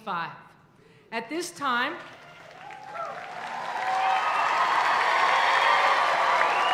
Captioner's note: audience cheering